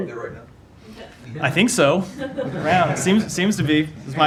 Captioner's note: laughter